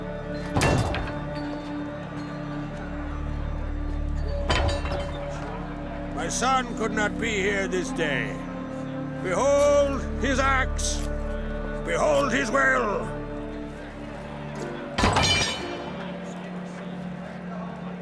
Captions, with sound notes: [thud] [clatter] My son could not be here this day... ... Behold his axe... ... Behold his will! [clatter]